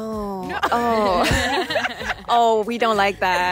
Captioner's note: laughter